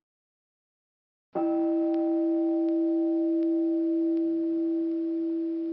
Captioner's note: meditation chime